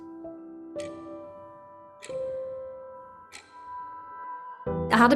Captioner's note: clock ticking